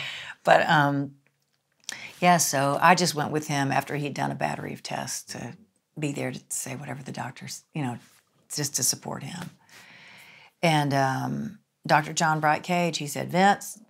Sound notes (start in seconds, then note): none